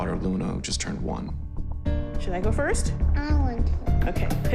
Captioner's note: none